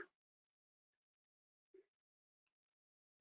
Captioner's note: silence